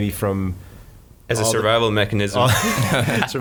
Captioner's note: laughing